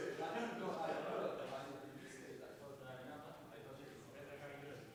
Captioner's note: chattering continues